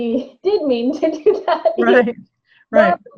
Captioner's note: laughs